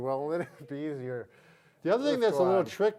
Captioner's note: laughing